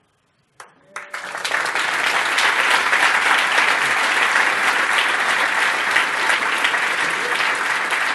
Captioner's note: applause